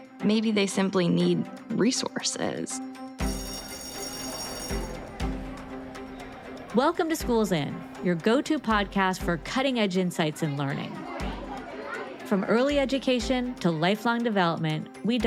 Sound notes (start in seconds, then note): 3.2 bell ringing; 3.6 bright music; 11.3 students chatting indistinctly